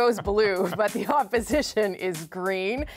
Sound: laughter

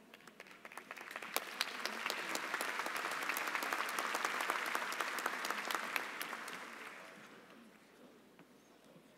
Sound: applause

